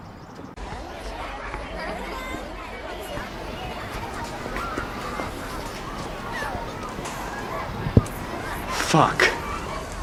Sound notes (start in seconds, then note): none